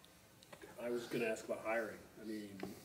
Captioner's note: voiceover